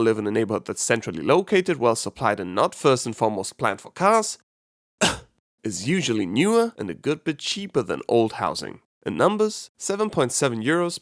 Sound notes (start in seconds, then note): 5.0 cough